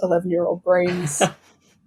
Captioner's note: laughs